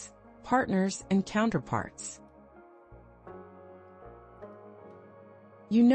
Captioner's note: pause